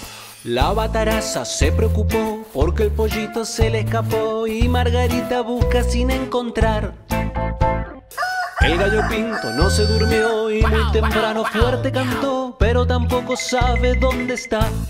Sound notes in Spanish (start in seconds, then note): 8.2 Cacareo; 10.6 Guau guau guau